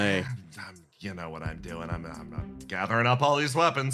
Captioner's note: muttering